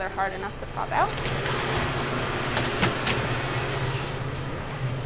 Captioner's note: freezer humming